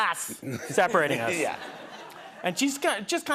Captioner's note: laughter